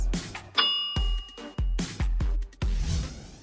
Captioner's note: ding